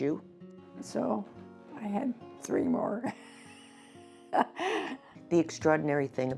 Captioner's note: laughs